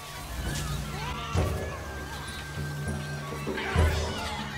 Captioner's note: monkeys chattering